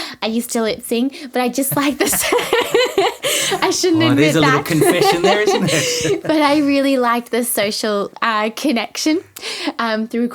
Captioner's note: both laughing